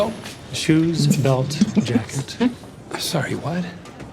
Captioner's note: all chuckle